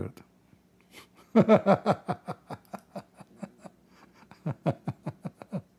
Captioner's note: Ketawa